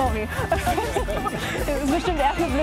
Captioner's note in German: alle lachen